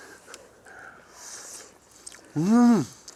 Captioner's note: also eating